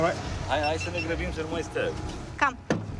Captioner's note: man speaks Romanian